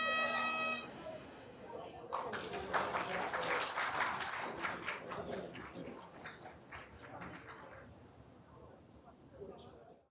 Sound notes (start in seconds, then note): 0.0 bagpipe music ends; 2.1 everyone applauding